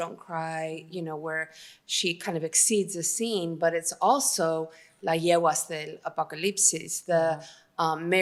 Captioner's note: speaking spanish